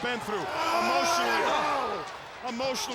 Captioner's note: person groaning